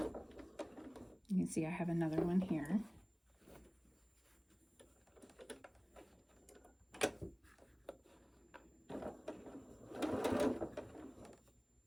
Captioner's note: fabric bunching